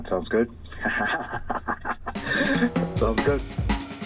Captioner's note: laughter